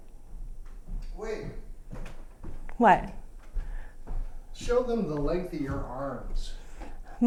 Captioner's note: manís voice